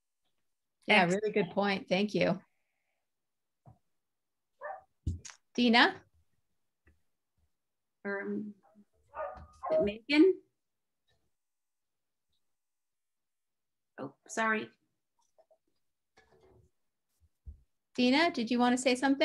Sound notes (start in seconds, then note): 6.0 sounds like dog barking in background